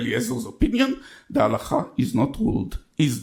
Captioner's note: speaks in foreign language